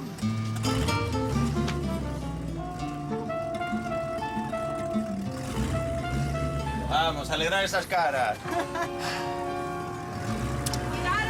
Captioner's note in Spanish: Ruido de los motores; Ruidos de los motores al irse